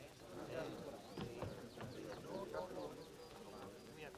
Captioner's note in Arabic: الناس يتحدثون